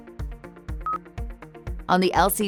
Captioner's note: screen beeps